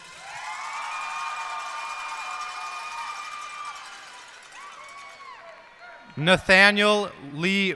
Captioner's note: cheers and applause